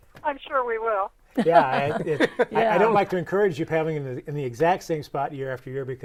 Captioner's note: laughing